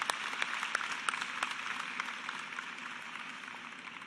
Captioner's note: cheers and applause